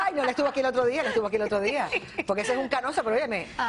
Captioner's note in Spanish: risas